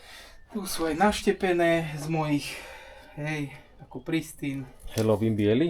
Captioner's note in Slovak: vzdychanie